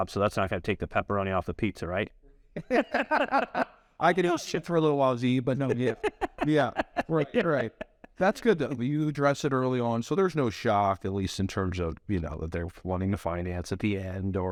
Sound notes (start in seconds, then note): 2.6 laugh; 5.5 laughs